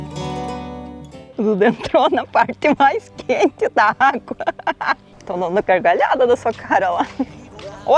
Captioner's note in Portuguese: risadas